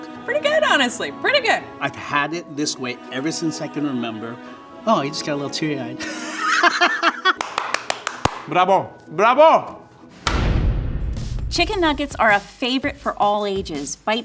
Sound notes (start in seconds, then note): 6.0 laughs; 7.3 claps; 10.0 dramatic music